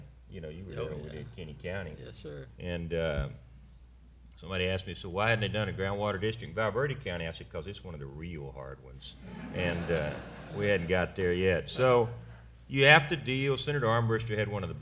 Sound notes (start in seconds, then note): 9.2 laughter